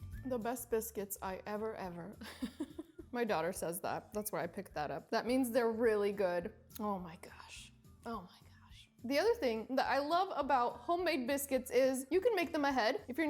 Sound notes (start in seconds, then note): 2.2 chuckles